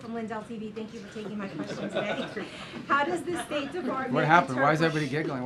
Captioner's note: laughter